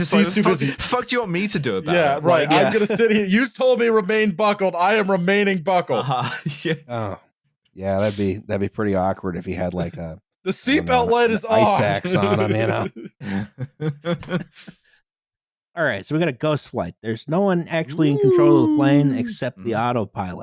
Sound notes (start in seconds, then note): 13.5 laughter; 17.9 spooky scary ghost noises